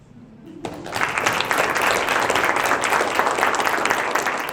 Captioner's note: applause